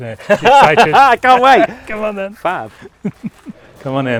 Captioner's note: laughing